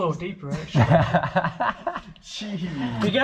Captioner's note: everybody laughing